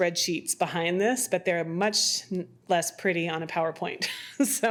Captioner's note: laughs